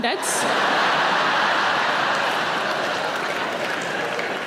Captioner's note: audience laughing